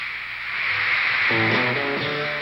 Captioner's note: screaming